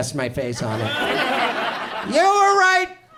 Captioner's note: audience laughs